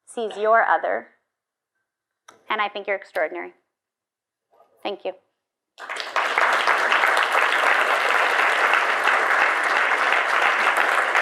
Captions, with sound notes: sees your other and I think you're extraordinary. Thank you. (audience applauds)